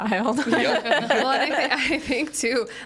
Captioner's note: group laughs